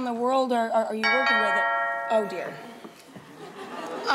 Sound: doorbell rings

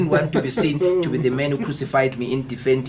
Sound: >> Interviewer Giggles

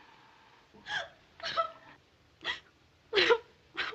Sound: Clara Lou sobbing

